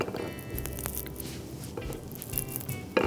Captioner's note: crackle